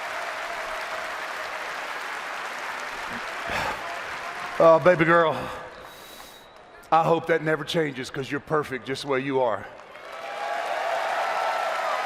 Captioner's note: cheering